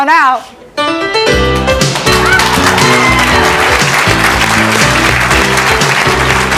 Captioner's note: jazzy music; audience clapping